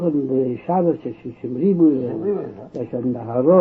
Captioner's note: laughing